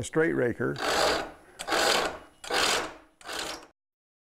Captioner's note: metal-on-metal grinding